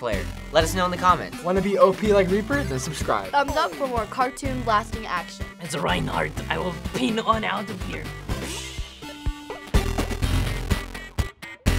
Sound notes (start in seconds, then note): 5.6 gruff German accent; 9.1 old-school video game music